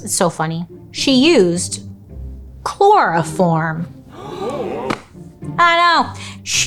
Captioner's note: audience gasping